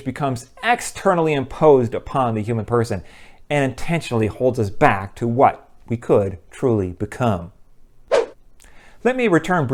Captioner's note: swoosh